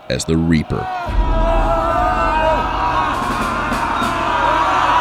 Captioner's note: recruits yelling